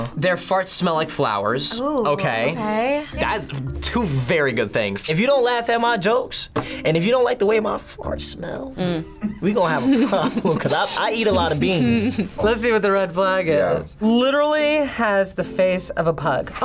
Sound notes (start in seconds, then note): 9.1 laughs